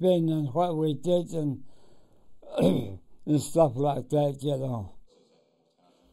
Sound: cough

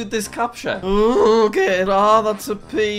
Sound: groans

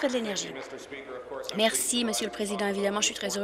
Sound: applause

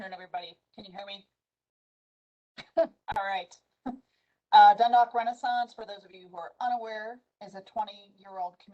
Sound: laughter

